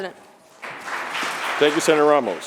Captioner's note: applause